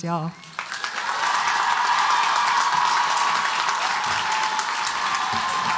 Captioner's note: audience cheering and applauding